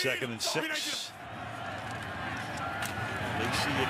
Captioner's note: pa announcement